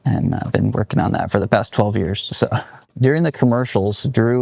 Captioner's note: chuckles